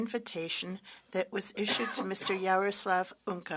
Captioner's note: speaking French